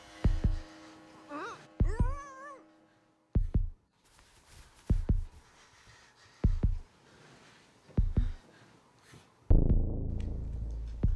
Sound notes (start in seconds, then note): 1.8 Meg grunts; 3.9 suspenseful music